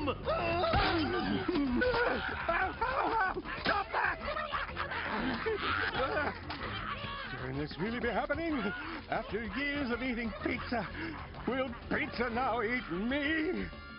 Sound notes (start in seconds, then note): 0.2 toppings yelling; 4.8 toppings growling